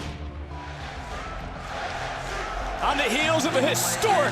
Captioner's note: crowd chants, "nxt"